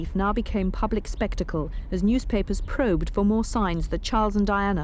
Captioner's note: none